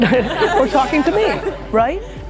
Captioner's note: laughter